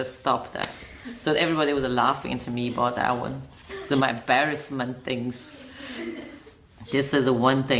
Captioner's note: all laugh